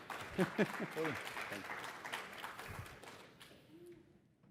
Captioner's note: applause